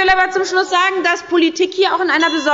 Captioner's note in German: Unruhe – Glockenzeichen des Präsidenten